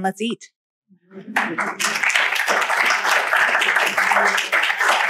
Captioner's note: applause